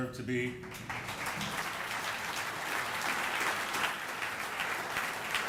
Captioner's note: audience applauding